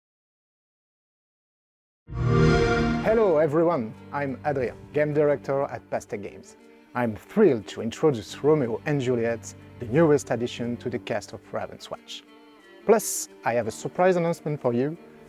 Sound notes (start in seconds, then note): 2.1 xbox sound